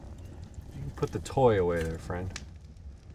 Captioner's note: none